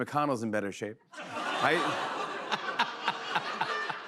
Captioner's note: laughter, groans